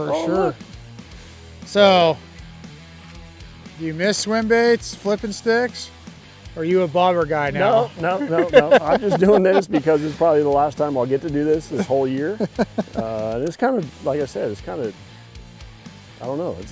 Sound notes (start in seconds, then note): 7.6 laughs